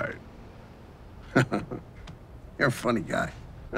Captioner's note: laughs